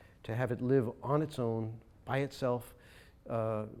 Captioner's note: none